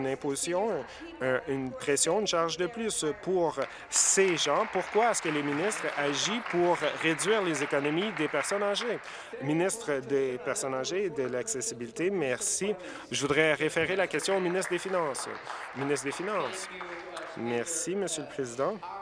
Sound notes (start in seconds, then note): 6.1 applause